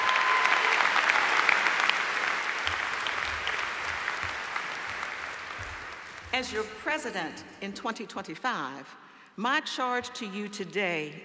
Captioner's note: applause